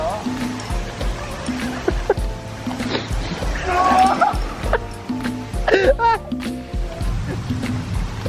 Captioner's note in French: Rires